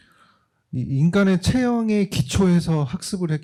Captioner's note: speaking korean